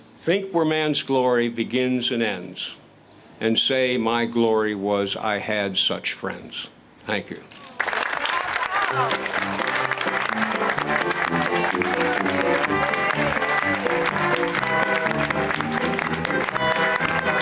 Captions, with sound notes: "Think where Man's glory begins and ends, and say, my glory was I had such friends." Thank you. (crowd applauding) (upbeat music)